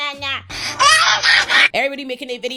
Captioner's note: screaming